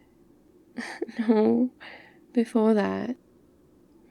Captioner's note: laughs